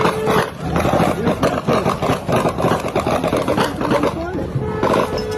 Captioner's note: plane engine roaring